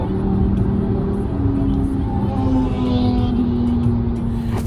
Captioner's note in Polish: muzyka i ryk silnika